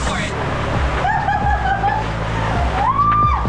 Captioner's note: cheers and laughs